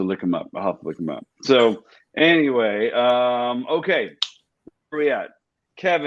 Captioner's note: Jet claps